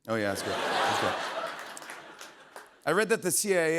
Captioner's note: laughter